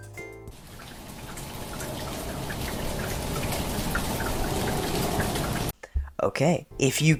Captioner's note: rain sounds